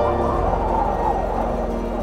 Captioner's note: howling wind